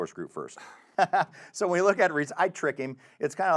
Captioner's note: chuckles